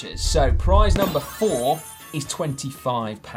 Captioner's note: graphic pops and tinkles